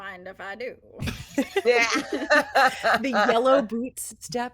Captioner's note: all laughing